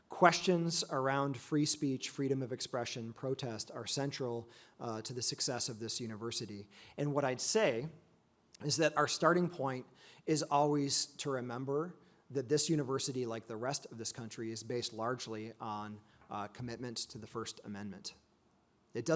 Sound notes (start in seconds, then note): none